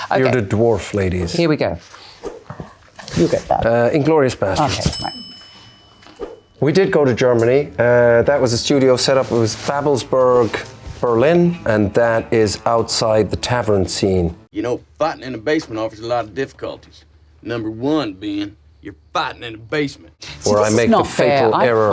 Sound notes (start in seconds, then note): 4.8 bell dings